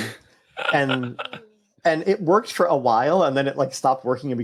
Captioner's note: chuckle